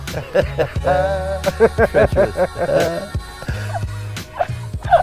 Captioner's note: laugh In Sync